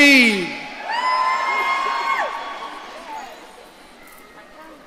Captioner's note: audience cheering